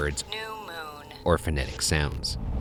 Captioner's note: automated Voice